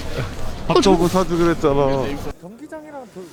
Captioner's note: sob